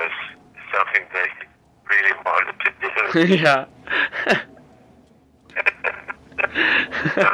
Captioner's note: laughter